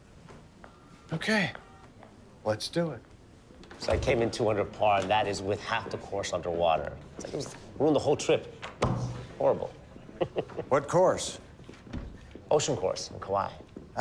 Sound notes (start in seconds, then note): 9.9 chuckles